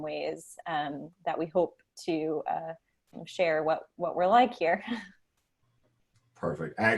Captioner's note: chuckles